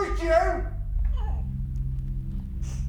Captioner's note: Mia crying